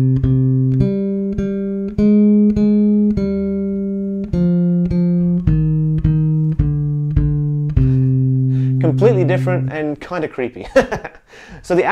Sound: laughs

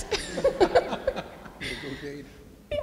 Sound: laughs

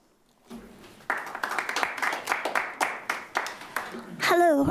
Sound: clapping

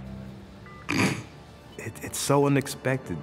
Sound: snorting

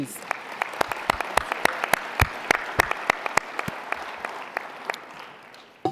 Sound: applause

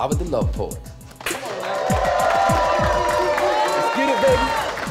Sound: cheers and applause

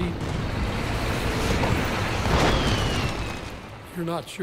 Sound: cannon shots exploding; missiles whirring

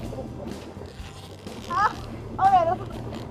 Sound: laughs

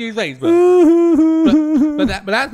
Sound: Fred starts crying

